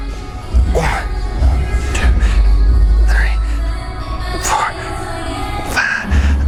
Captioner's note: grunting